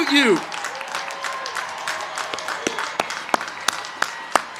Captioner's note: crowd cheering